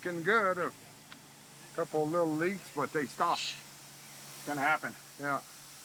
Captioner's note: exhales